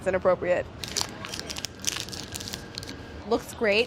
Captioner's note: wrapper crunches